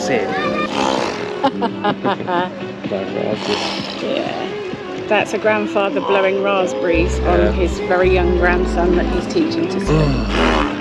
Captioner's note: laughter